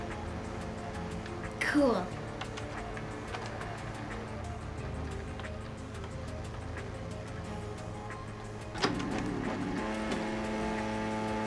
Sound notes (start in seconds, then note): 3.1 fax machine whirring; 8.8 fax machine whirs loudly